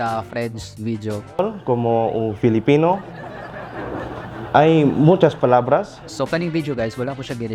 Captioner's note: speaking Spanish